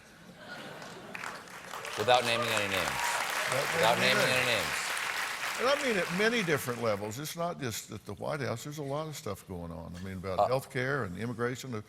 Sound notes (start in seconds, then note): 3.6 applause